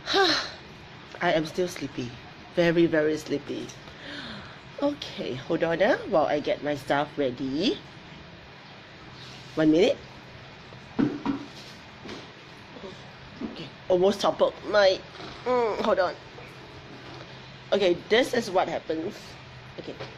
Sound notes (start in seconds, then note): 0.2 sigh; 15.1 grunts